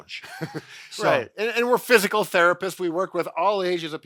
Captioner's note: laughing